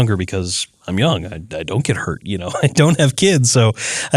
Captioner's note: laugh